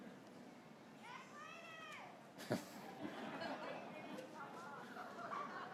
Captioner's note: graduates cheering